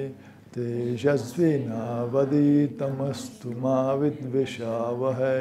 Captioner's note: chanting